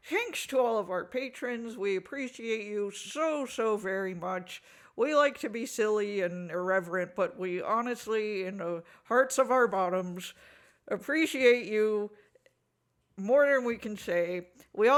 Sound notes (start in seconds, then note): none